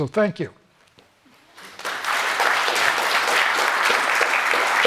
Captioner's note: applause